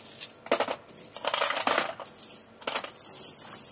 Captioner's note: clinking